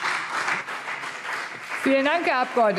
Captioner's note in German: Beifall BÜNDNIS 90/DIE GRÜNEN und CDU